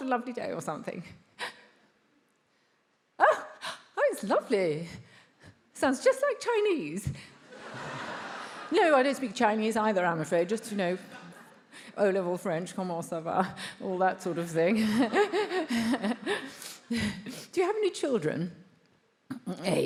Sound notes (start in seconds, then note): 7.4 attendees laughs; 14.8 laughs